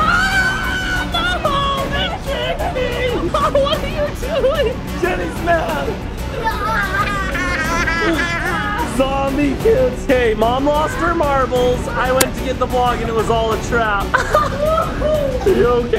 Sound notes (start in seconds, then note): 6.4 shouts; 6.7 dramatic music